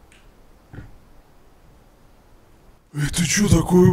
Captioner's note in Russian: Странный щелчок